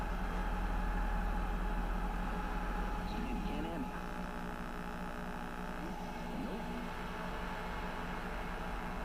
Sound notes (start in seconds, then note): 3.2 TV channels changing